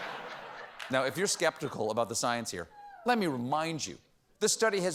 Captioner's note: laughter